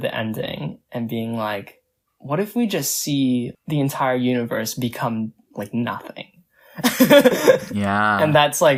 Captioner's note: laughs